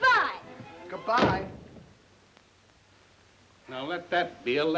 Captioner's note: door thuds